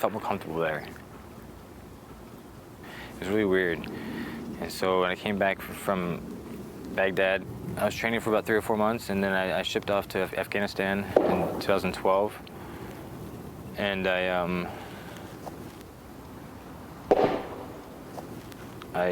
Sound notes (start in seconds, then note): 11.2 banging noise; 17.0 baseball banging